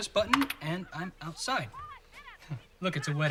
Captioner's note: bride arguing